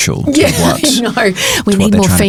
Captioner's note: chuckles